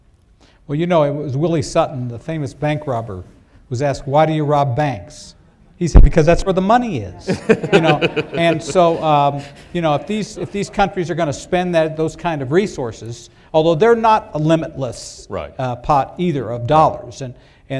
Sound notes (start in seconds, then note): 7.2 laughter